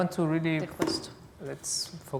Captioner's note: non-english